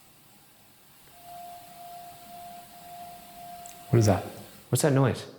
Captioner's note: device beeping